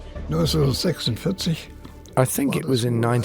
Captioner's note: speaking in foreign language